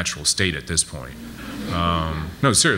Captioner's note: audience laughs